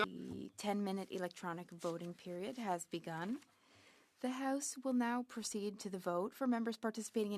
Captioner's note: speaking French